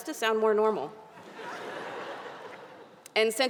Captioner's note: audience laughing